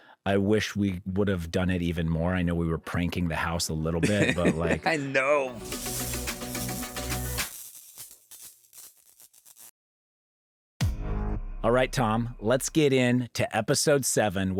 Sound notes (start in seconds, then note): 4.0 upbeat music; 7.7 electricity crackling